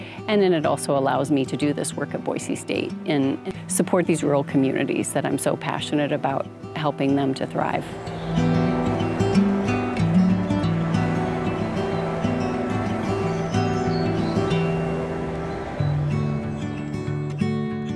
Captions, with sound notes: And then it also allows me to do this work at Boise State and support these rural communities that I'm so passionate about helping them to thrive. (birds chirping) (light music)